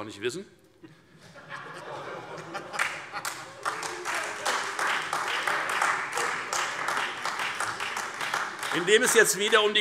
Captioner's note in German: Heiterkeit und Beifall Freie Demokraten und AfD